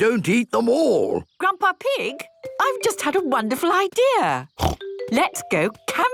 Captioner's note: snort